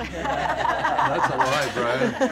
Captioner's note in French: rires de groupe